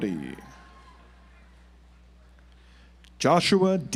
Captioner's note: audience applauds